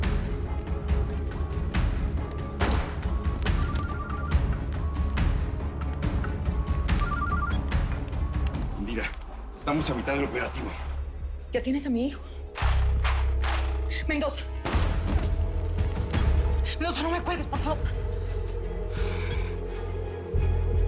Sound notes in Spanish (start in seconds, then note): 4.0 Suena el celular; 13.1 Disparos